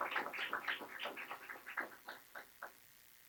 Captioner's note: clapping